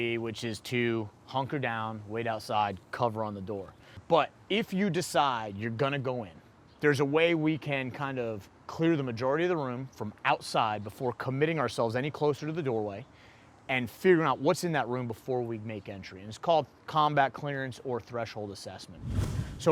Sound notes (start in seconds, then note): none